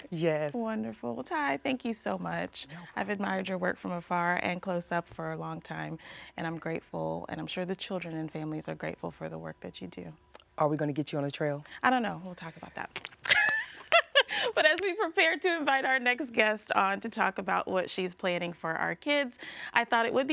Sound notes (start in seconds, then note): 13.3 laughs